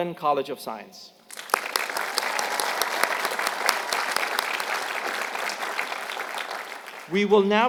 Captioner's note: applause